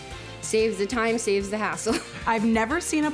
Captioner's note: laughing